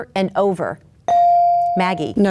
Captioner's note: bell dings